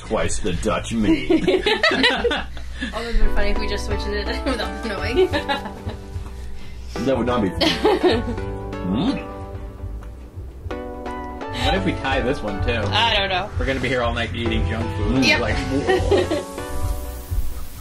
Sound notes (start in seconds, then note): 1.0 laughing; 5.1 laughing